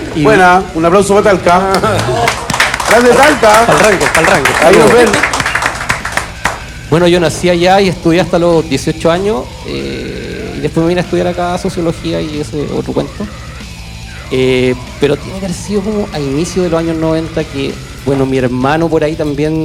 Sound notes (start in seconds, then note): 1.7 applause